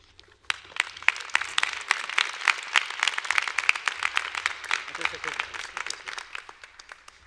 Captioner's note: applause